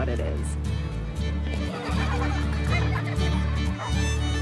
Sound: laughing, giggling

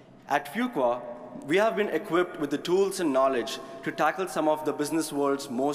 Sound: none

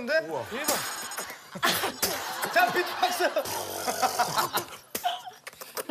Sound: beatbox of joy

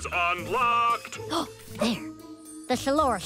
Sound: gasps

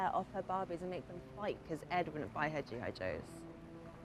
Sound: none

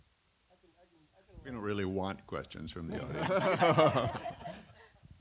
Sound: laughter

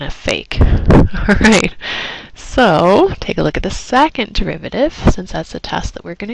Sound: laugh

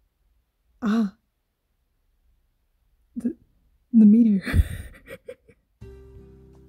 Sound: chuckle

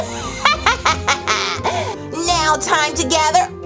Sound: sinister laugh

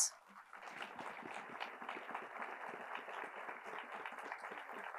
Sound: attendees applauding

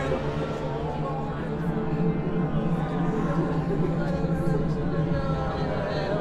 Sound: all praying and speaking in tongues

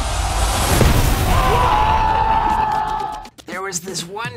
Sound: crowd cheering

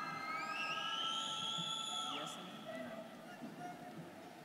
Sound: students cheering

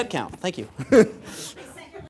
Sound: laugh

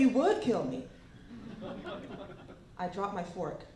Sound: laughter

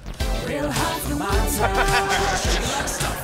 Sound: laughing

